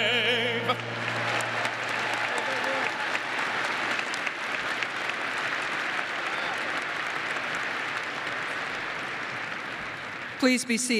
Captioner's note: applause